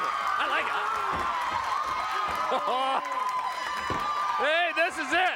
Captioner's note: applause